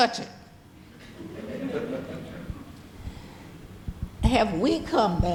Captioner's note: audience laughing